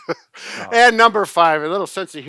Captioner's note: both laughing